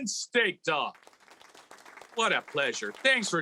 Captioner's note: audience clapping